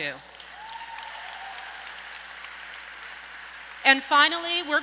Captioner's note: audience applauds and cheers